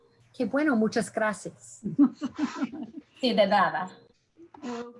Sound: speaking in Spanish

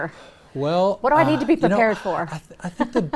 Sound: chuckles

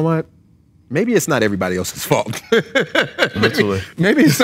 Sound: laughs

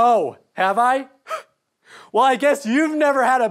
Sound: exasperated sigh

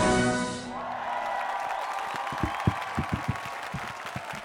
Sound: applause

